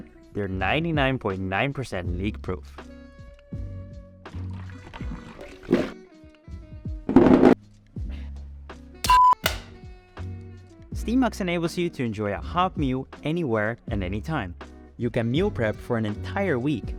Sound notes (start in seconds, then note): 4.4 soup shaking sound; 9.0 snap